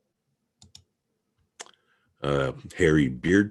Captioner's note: mouse clicking